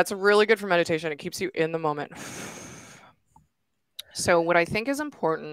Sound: exhaling

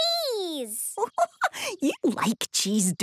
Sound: giggling

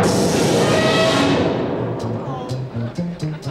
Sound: loud blowing; audience laughing

